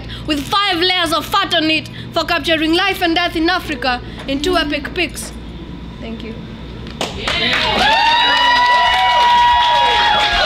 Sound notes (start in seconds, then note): 7.0 applaud